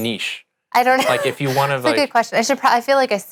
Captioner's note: laughs